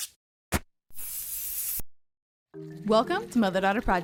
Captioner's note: spray can hissing; spray can rattling